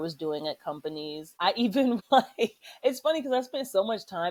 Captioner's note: laughter